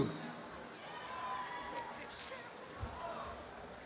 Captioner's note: applause and cheering